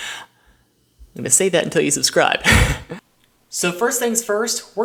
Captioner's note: laughs